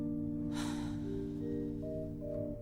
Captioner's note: sighs